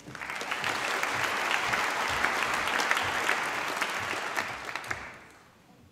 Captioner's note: applause